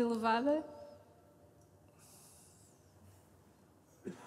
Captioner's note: silence